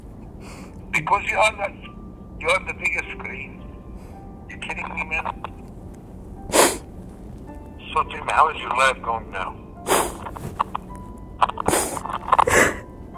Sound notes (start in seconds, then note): 6.4 sniffs; 9.8 sniffs; 11.6 sobs